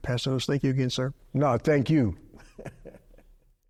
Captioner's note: chuckles